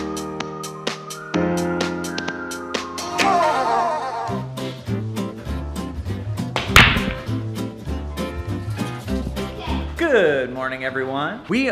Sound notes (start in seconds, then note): 0.1 light music; 4.2 light pop music; 6.5 balls clang